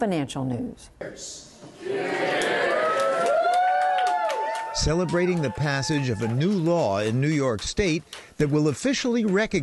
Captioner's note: cheering and applause